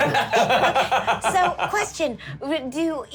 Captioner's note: laugh